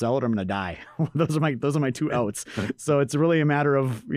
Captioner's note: laughs